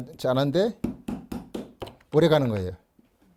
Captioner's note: hammering sound